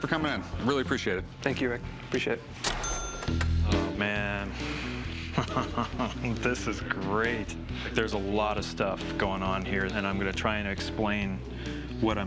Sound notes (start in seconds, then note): 2.6 cash register chiming; 5.3 laughs